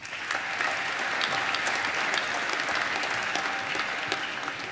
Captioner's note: applause